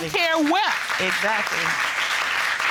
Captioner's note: audience applauds